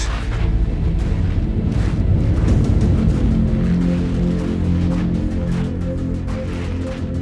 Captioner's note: music and crunching footsteps